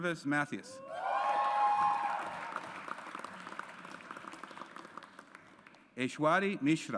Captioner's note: audience applauds